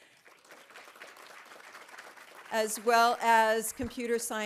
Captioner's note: audience applauding